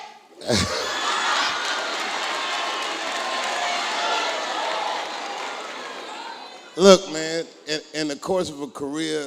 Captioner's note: applause